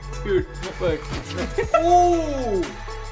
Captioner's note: laughs